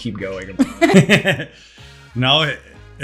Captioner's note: laughter